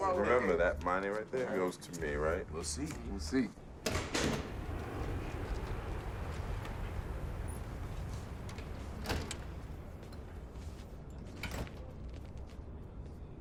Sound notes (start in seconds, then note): 3.6 jet flying; 11.4 distant chatter